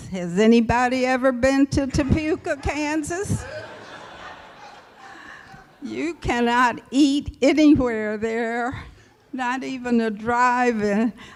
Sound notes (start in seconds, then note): 2.0 laughter